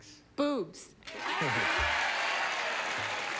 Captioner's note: cheering